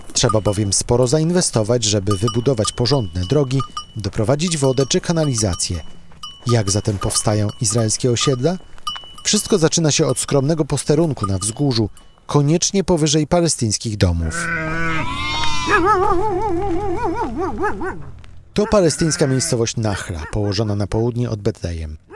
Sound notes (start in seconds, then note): 15.0 dogs bark, sheep bleat